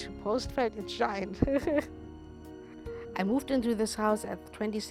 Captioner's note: laughs